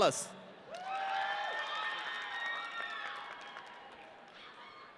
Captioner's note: audience cheering